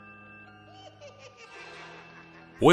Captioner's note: snickering